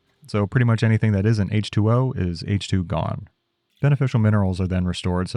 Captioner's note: none